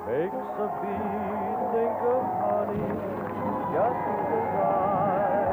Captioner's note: crowd shouts